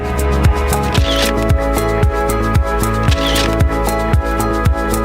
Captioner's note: camera clicking